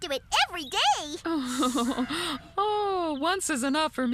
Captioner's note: chuckling